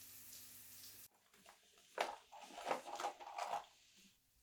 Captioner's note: shower water running; rummaging in bag